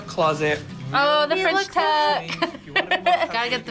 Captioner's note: laughs